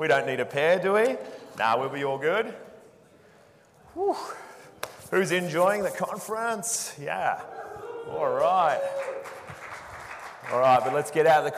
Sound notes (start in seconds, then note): 4.8 claps and rubs hands; 8.4 audience applauding